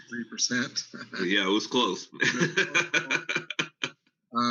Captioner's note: laughs